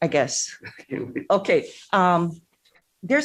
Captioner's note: laughs